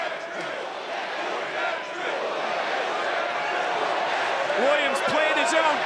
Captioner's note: crowd chants "Whoop that Trick"